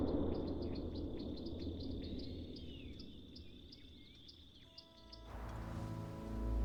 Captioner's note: birds chirp